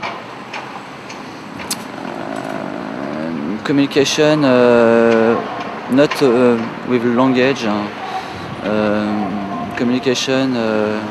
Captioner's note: in english french